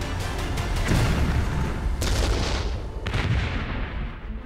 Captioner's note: cannon shots